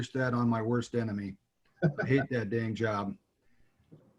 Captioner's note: laughing